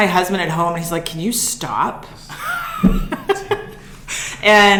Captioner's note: laughs